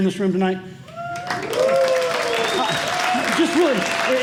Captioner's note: cheers and applause